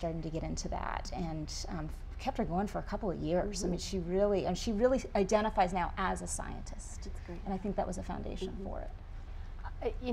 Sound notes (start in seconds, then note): none